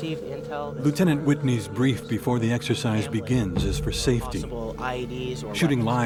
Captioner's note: voiceover